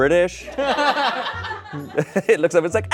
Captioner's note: crowd laughs